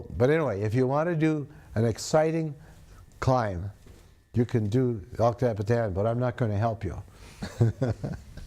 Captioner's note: laughs